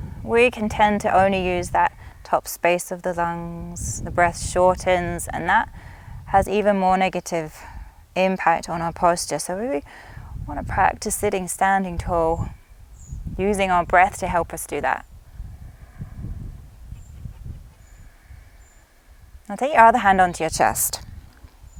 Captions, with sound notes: we can tend to only use that top space of the lungs. The breaths shortens, and that has even more negative impact on our posture. So, when--we wanna practice it standing tall, using our breaths to help us do that. (inhales deeply) (exhales deeply) Now, take your other hand onto your chest.